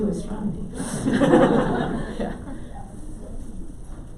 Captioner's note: audience laughs